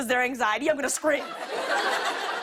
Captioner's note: laughter